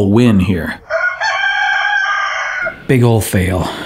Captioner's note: rooster crowing